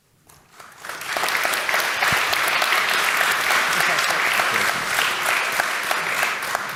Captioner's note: applause